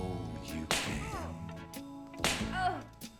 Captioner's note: smack; smack